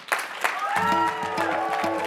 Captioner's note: applause